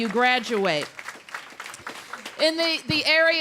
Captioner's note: applause